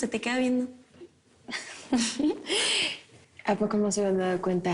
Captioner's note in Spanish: Risas